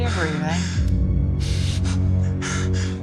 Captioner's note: panting